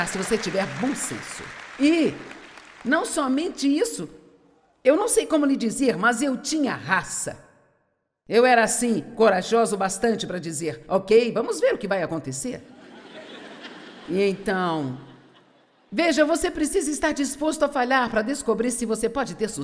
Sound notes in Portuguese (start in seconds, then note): 12.7 audiência ri